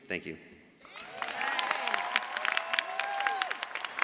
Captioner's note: cheers and applause